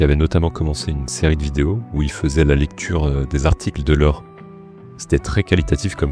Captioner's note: in french